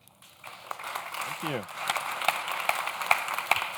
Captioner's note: audience claps